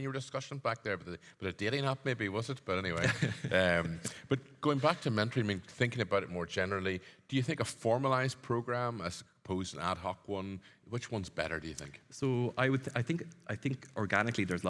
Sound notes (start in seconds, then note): 2.9 chuckles